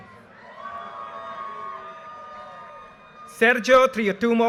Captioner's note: audience cheers and applause